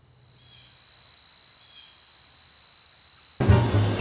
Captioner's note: insects chirping, birds calling